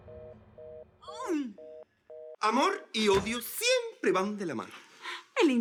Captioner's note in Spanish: Sonido de apagado